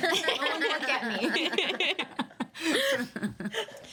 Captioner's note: all laughing